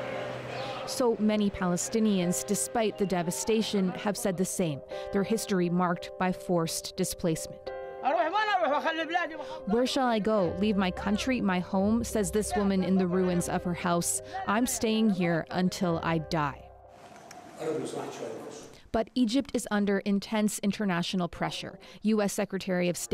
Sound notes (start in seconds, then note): 9.1 speaking alternate language